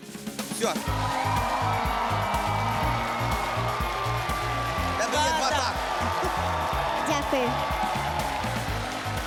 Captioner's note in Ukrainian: оплески